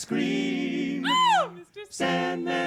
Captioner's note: falsetto screams